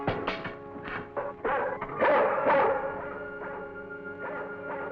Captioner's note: Venus barking